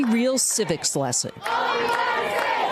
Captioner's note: applause